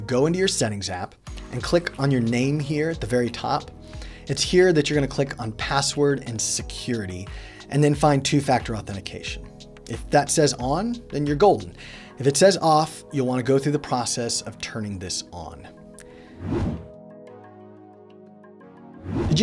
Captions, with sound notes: Go into your Settings app, and click on your name here at the very top. It's here that you're gonna click on Password & Security, and then find Two Factor Authentication. If that says on, then you're golden. If it says off, you'll wanna go through the process of turning this on. (whooshing) (gentle music)